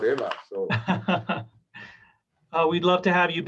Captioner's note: laughing